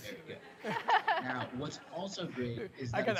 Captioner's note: laughter